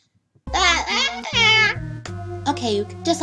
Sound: cool baby noises

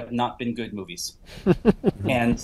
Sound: background chuckle

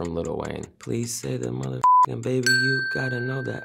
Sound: beep

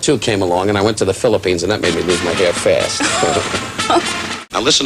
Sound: laughter

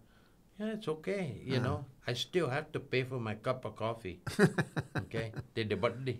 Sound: laughing

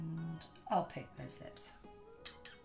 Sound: smacking

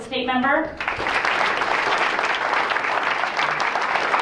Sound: applause

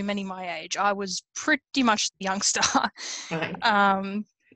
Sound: laughs

